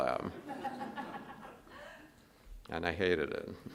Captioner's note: audience laughs